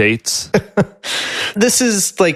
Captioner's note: laughs